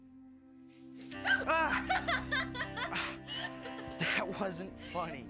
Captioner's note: laughing